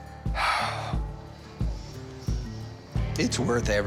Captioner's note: sighs